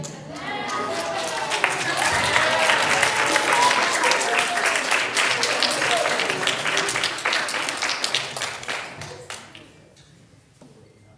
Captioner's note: applause